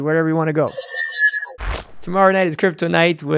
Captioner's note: electronic beeping